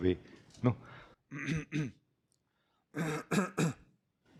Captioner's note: coughing